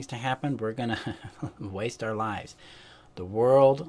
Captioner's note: chuckles